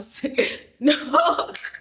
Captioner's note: laughing